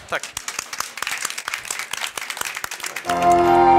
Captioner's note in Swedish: Applåder